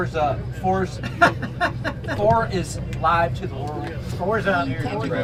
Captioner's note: laughs